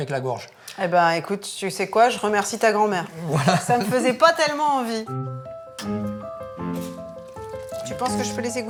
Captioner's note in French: rires